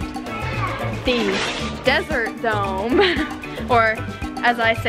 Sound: laughs

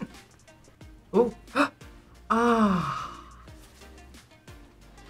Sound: laughs; gasps

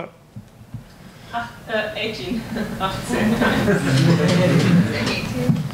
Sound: audience laughs

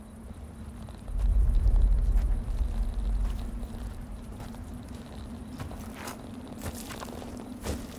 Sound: footsteps in the distance

